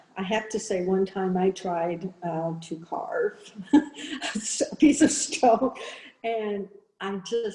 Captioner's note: chuckles